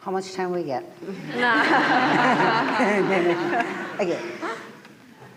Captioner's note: laughter